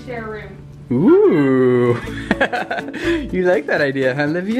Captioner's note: laughs